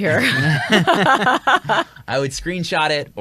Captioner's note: all laugh